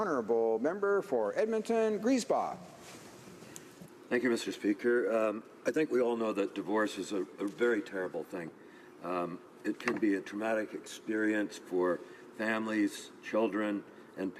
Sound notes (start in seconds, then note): 1.3 speaking French